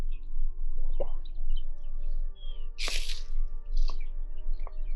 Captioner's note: birds chirping